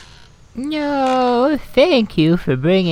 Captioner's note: forest + Rocking Chair SFX